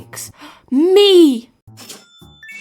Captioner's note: gasps